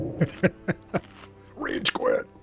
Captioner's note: laughs